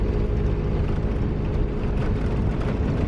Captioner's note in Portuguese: som de carro